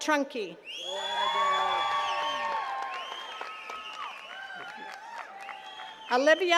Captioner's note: attendees cheering and clapping